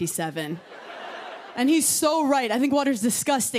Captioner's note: laughter